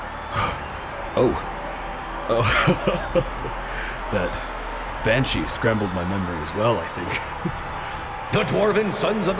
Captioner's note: chuckle